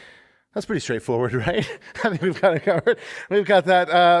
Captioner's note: laughter